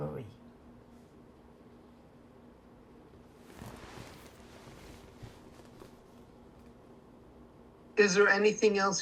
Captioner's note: pauses 8 seconds